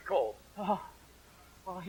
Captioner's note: shivering